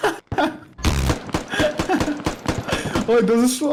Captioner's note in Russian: Смех